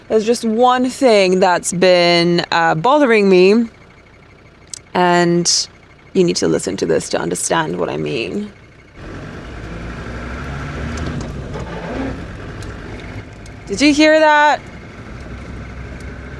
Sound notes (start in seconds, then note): 8.9 engine revving; 12.4 gearbox cluttering